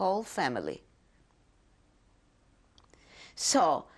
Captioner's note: pauses for 3 seconds